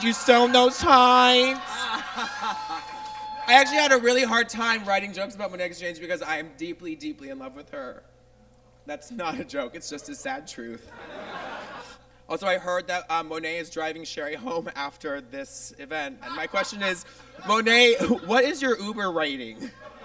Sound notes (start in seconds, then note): 2.1 audience cheers; 10.7 audience laughs